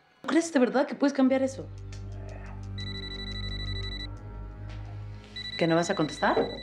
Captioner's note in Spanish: suena un celular